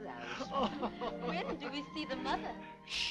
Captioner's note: laughing